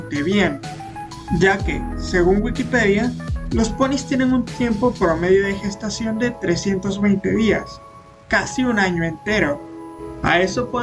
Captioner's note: Spanish